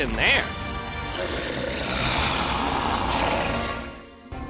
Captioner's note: monster growling